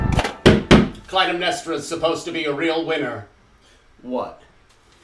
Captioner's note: knocks